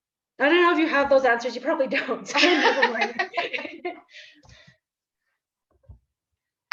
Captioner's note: laughter